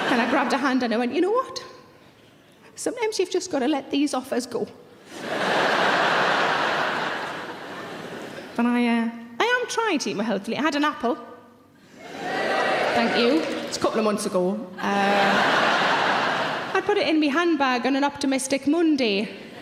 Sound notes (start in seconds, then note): 0.0 audience laughing; 5.0 audience laughing; 12.0 audience cheering; 14.8 audience laughing; 19.4 audience laughing